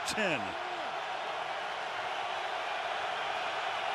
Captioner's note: crowd cheering